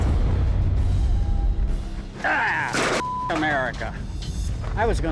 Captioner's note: shouts angrily